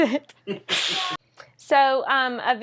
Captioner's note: laughs